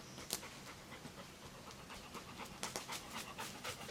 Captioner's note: Cali panting